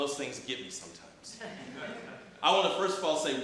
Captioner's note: audience chuckling